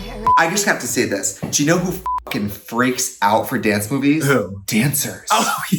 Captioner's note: beep